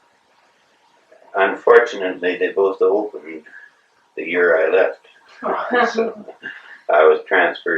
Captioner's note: laughter